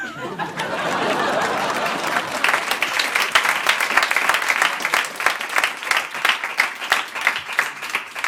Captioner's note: laughter and applause